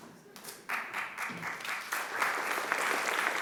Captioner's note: applause